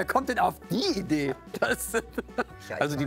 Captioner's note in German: Lachen